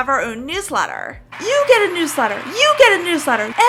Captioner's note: crowd cheering